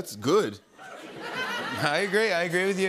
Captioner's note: laughter